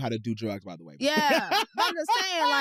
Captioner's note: laughs